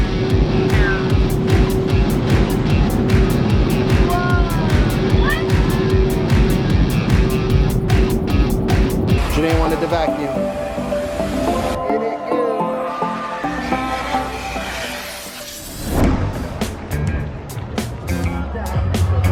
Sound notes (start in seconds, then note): 0.2 upbeat rock music; 10.4 upbeat music; 13.1 vacuum hissing; 16.6 upbeat music